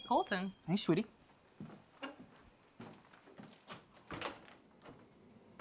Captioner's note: crickets chirping